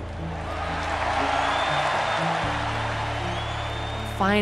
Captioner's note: crowd cheers and applauds